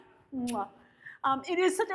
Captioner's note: lips smack